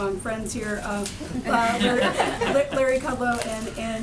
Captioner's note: laughter